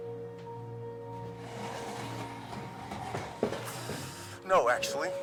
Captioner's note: chair scraping